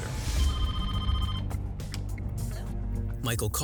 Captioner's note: phone ringing